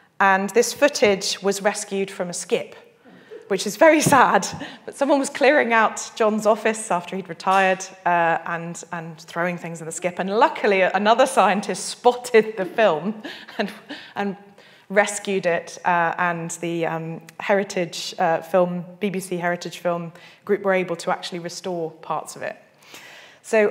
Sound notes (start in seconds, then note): 3.1 chuckles; 12.6 laughs